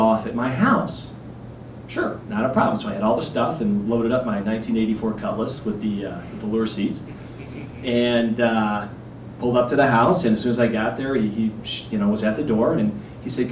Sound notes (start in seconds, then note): 8.8 laughter